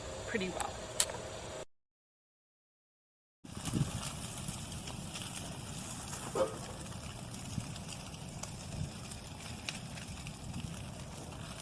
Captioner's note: sounds of fire crackling